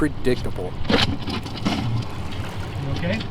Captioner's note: rock breaking off